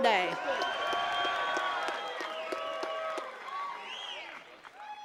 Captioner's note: attendees cheering and clapping